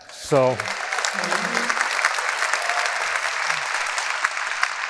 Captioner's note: audience applauding